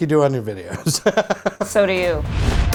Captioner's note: laughs; note swooshes